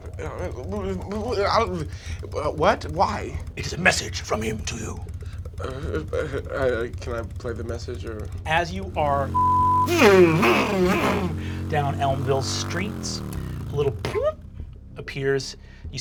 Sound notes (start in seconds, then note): 0.0 blabbering; 9.3 beep; 10.8 whirring